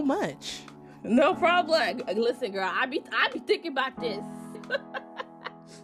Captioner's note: laughter